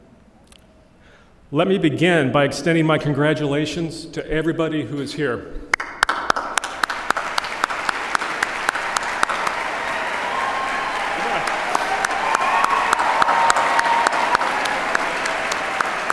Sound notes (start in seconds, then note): 5.7 applause